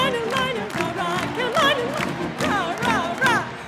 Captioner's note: cheers and applause